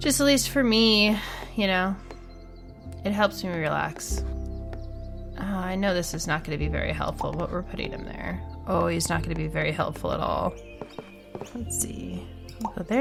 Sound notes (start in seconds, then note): 10.9 bird sounds